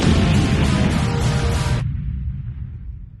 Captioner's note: explosions